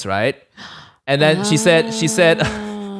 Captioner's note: astoundingly gasps